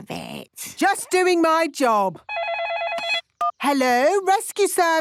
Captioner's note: phone ringing